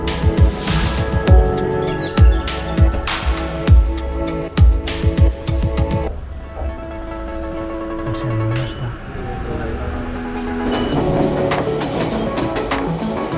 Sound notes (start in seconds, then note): 0.1 sound of birds twittering at JR East, Sendai Branch Office